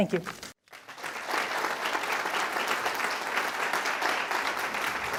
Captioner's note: audience applauds